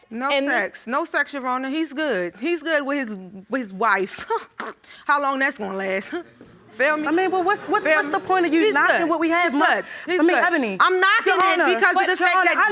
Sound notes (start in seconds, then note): 4.2 scoffs